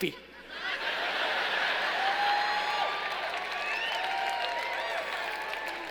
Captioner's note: laughing and cheering